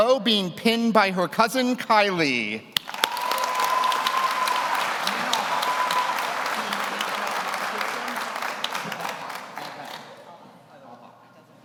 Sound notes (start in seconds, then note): 2.8 audience applauds; 2.8 audience cheers